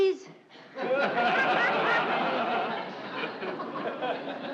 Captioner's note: audience laughing